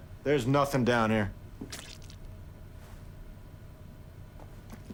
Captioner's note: squishing